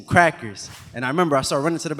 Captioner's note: animation whooshes